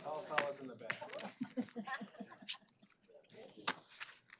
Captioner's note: laughter; indistinct chatter